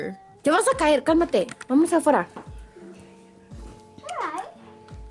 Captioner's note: speaks in foreign language